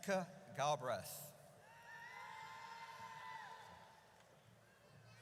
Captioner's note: audience cheers